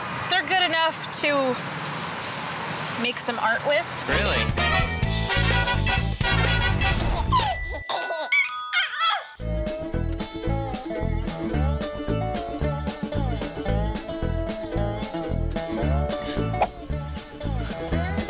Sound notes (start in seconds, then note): 4.1 energetic music; 6.5 baby cooing; 9.4 upbeat country music